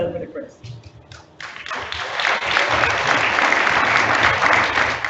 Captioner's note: audience applauds